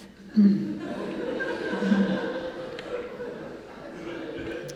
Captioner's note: congregation laughing